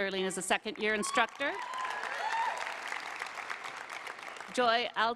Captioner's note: applause